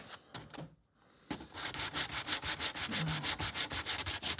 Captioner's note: rubbing sandpaper